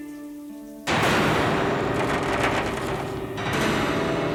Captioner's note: window thudding